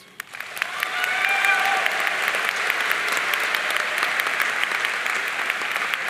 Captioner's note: audience cheering and applauding